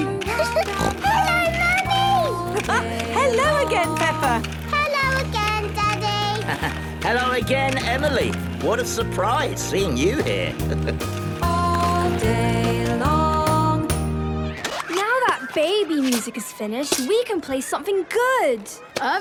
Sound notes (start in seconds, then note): 0.4 giggling and snorting; 2.8 laughing; 6.3 laughing; 10.0 chuckling